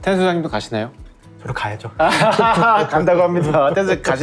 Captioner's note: laughter